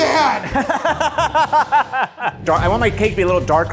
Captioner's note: laughs